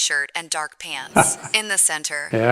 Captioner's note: laughs